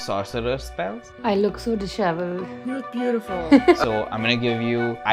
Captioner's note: laughter